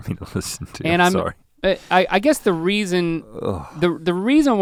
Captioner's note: Rhett sighs